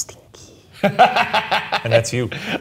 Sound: laughing

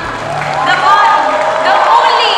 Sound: cheering/Applause

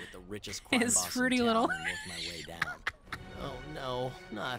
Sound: laughing

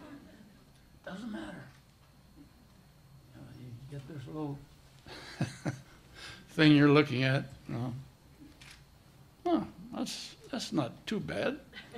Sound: laughter; laughter

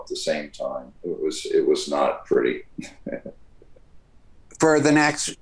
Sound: laughs

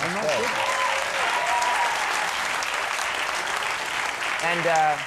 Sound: audience claps and cheers

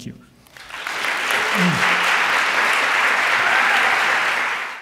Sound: audience applauds

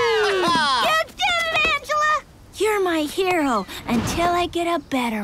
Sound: all cheer

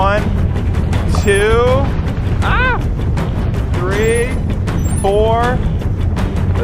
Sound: yells

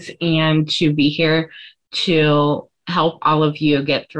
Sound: none

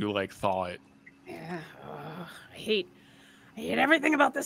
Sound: groans

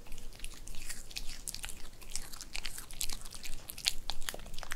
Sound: crunch crunch

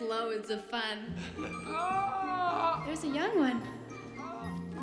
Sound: groaning

